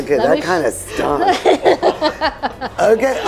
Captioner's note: all laughing